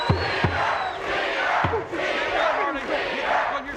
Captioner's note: audience chants